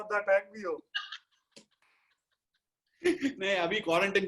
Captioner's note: laughs